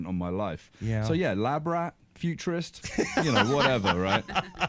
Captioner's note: laughs